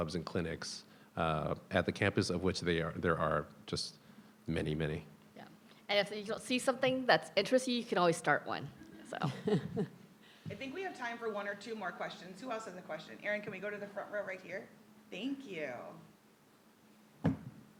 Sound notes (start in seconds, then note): 8.9 people chuckling